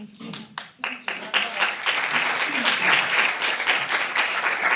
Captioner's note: applause